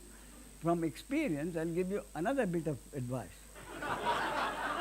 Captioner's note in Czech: smích